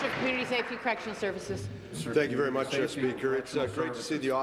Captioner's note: applause